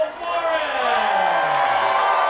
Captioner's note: applause